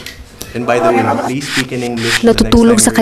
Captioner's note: professors voice trails out